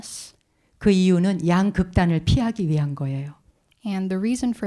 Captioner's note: speaking in Korean